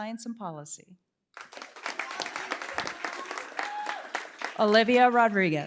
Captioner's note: applause